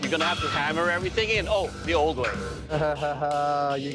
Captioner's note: laughs